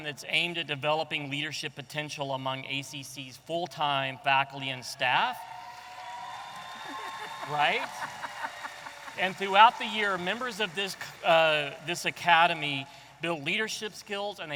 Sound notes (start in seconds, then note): 5.4 audience applauding and cheering; 7.8 laughing